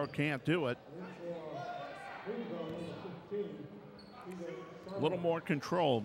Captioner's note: yelling